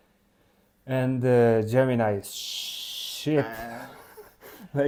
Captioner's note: laughs